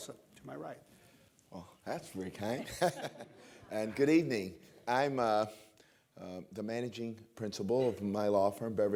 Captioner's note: laughs